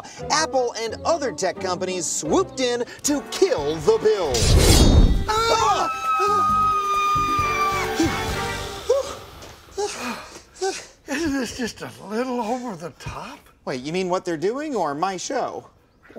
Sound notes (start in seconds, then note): 5.2 screaming; 8.7 panting